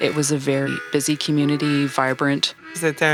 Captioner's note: engine sounds & honking